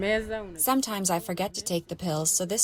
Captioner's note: through translator